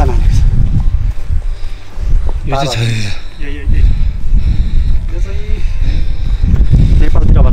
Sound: heavy panting

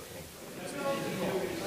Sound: background chat

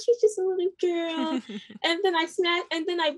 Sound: laughs

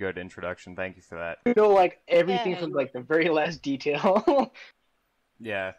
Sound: laughs

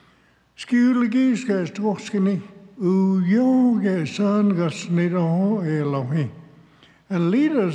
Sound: speaks Cherokee

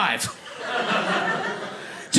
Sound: audience laughing

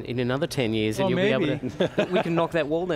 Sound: laughs

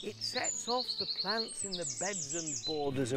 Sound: TV plays

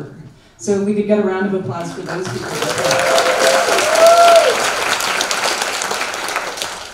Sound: applause

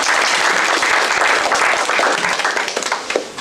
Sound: applause

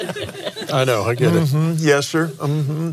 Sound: laughs

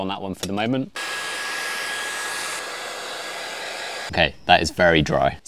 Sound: blow dryer whirring

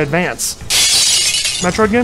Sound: shattered glass sound

